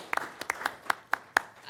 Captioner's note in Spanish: aplausos